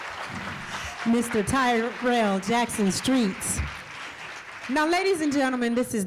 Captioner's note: cheering and applause